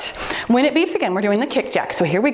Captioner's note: timer beeps